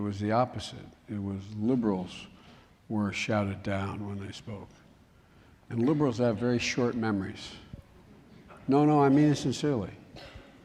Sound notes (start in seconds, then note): 8.0 laughter